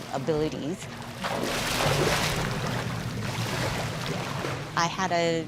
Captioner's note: water splashing